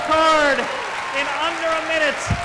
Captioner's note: applause